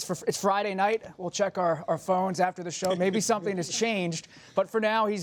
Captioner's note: laughter